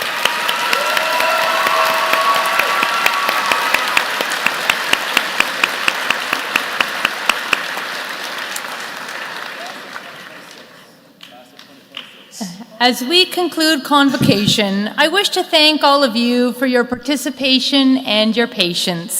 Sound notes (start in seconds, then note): 5.2 applause